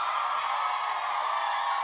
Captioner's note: applause